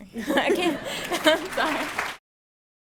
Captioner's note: applause